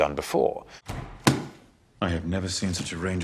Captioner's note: book slams